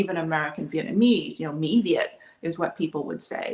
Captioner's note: speaks Vietnamese